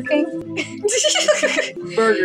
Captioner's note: quiet Laugh; giggle